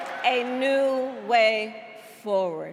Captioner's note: crowd chanting